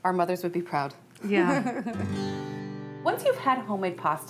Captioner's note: giggling